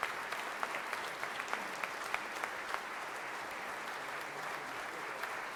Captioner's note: audience applause